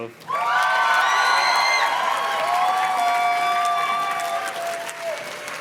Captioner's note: audience cheers and claps